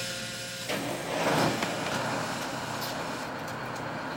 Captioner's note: engine starting